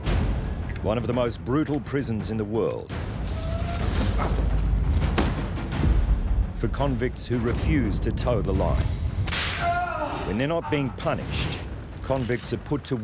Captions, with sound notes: One of the most brutal prisons in the world... [shackles clanking] for convicts who refuse to toe the line. [man shouts] When they're not being punished convicts are put to work